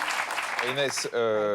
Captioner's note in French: applaudissements